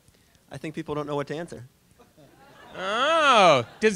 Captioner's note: audience laughter